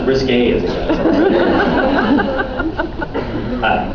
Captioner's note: laughs